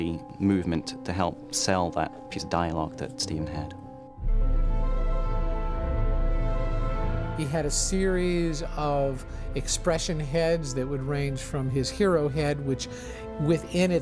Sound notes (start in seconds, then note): none